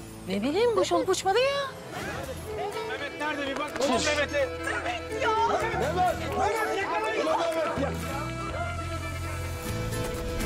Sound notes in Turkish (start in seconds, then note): 4.6 Bağrışma sesleri